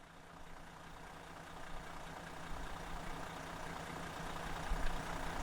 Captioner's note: engine idles